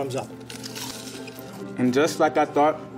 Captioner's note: crunching